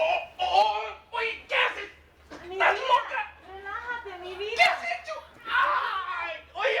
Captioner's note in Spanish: Gritos